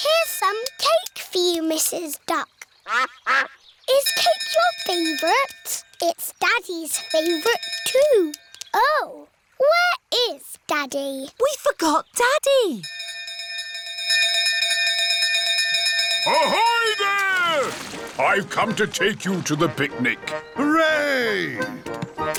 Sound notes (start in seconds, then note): 2.8 quacking; 6.9 bell dinging; 12.8 bell continues dinging